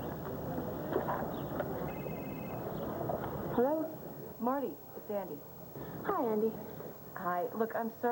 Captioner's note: telephone rings